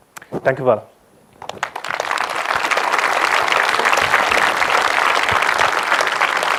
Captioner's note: audience applause